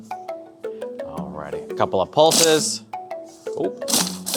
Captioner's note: machine buzzes